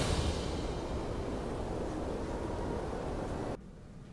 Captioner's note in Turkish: Müzik - Gerilim; Rüzgâr sesi